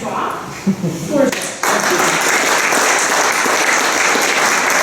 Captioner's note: applause